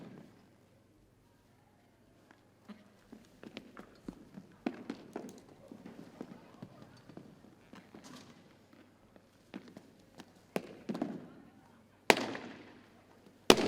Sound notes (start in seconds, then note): none